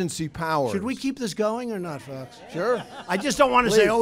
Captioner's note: laughter